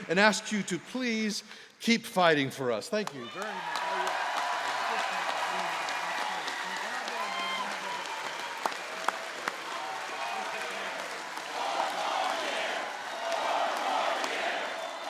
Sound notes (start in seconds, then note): 3.0 applause